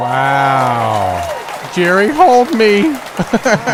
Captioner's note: cheering, applause